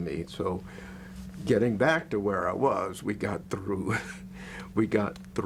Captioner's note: laughs